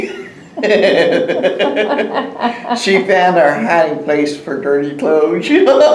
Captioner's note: laughter